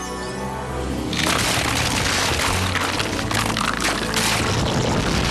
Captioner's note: cracking